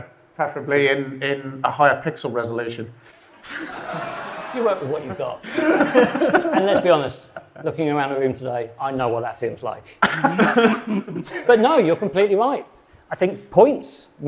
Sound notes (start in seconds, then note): 3.2 audience laughing; 5.7 guests laughing; 10.0 guests laughing